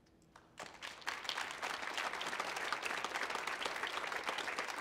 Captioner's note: audience applauding